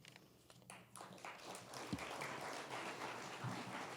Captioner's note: applause